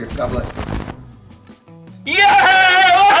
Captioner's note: static T.V. Noise